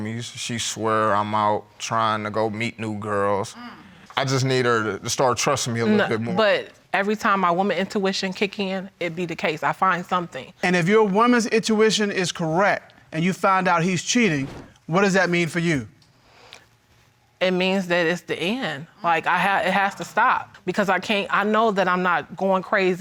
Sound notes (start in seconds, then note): none